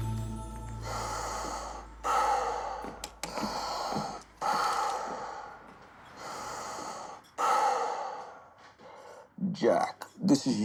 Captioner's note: heavy breathing